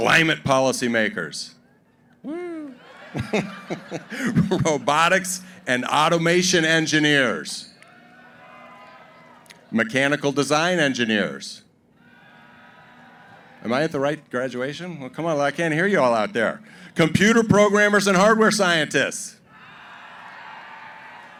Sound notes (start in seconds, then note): 2.4 laughter; 7.8 cheering; 12.0 cheering; 19.5 cheering